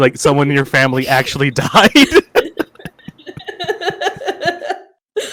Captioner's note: laughter